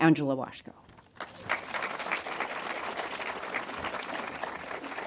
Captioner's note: audience applauding